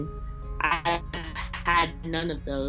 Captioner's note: audio glitches